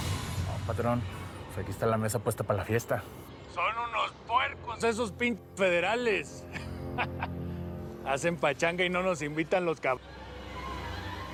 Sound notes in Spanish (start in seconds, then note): 6.5 risas